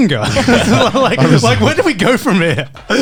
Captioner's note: laughing